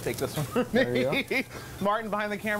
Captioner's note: laughter